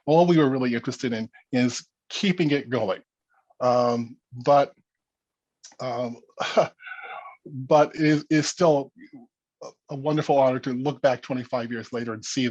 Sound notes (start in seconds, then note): 6.4 laughs